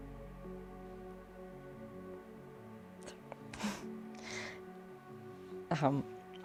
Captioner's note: sobs